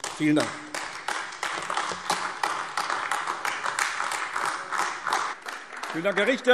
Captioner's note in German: Beifall AfD